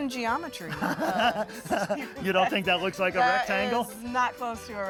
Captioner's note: laughs